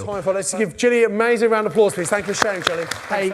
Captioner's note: audience applause